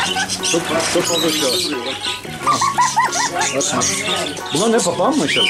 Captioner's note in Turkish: Gülüşmeler